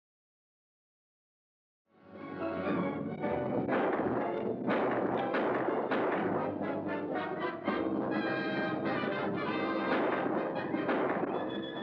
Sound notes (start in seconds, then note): 2.1 dramatic music; 3.8 pistol firing; 6.7 dramatic music; 8.6 gunshots; 9.8 dramatic music